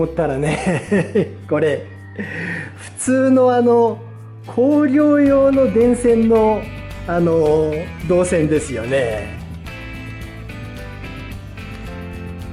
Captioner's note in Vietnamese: cười